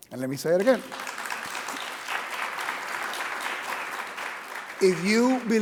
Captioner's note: audience clapping